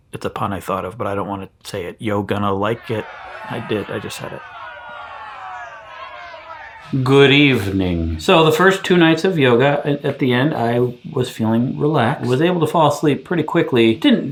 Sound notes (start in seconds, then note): 5.4 crowd jeering